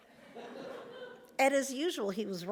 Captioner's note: audience laughs